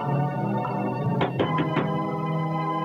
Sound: door knocks

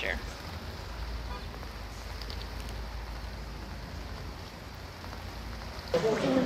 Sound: rain continues to fall

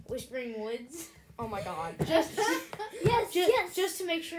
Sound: laughter

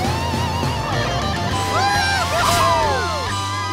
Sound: cheering

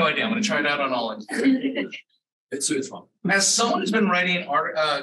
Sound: all laughing

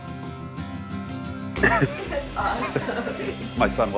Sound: laughing

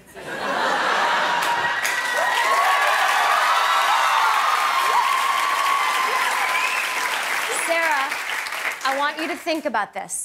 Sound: cheers and applause

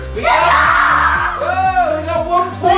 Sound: screams

